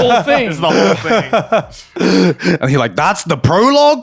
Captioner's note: laughing